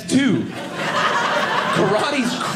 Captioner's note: audience laughing